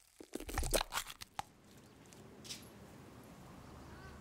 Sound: squishing

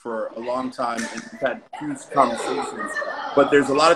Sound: voices in the background

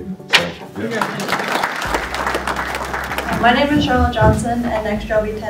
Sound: clapping

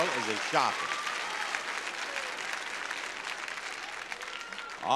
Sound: audience applauding

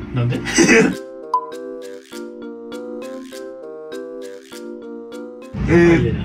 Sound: fast forwarding

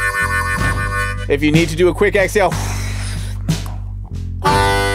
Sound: exhales; harmonica music

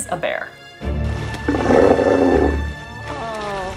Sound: sea lion roars

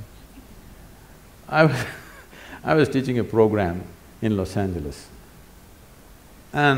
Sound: laughs

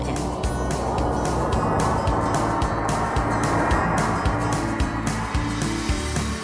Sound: wind rushing; cheerful music

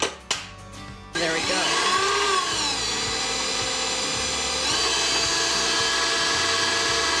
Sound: mixer whirring

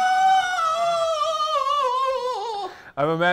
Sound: laughs

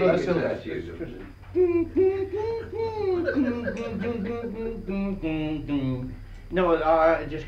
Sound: man making guitar sounds and laughter

